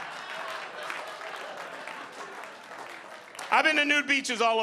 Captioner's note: audience laughing